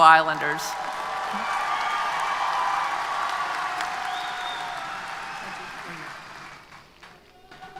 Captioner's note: applause & Cheers